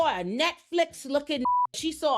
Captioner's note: beep